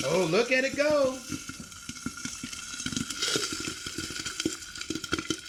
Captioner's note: popcorn popping